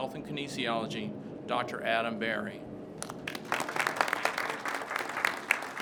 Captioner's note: crowd claps